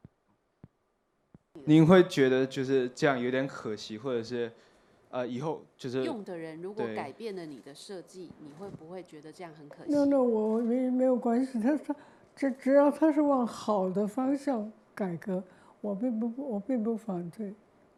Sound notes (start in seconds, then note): 2.9 Mandarin; 10.6 Mandarin